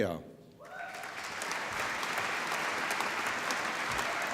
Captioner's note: applause